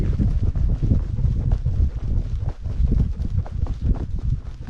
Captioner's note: paws pattering